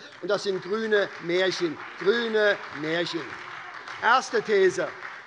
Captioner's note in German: Beifall bei der SPD - Zurufe von dem BÜNDNIS 90/DIE GRÜNEN